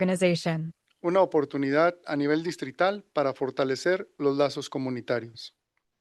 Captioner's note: non-english speech